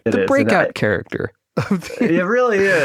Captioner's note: laughs